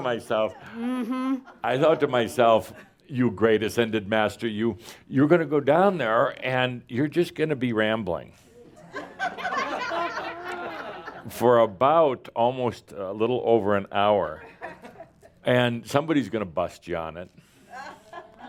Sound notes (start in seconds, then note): 8.9 more laughter